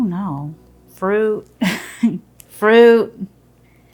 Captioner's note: laughs